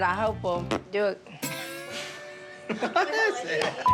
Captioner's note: laughter